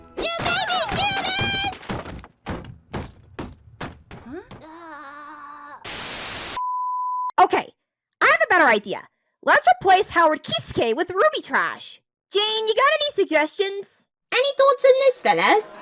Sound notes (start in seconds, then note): 5.8 TV Static and Bleep